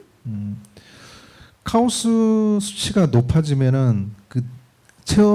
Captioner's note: speaking korean